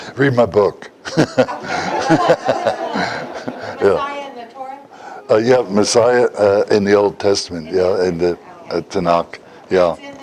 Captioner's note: Смех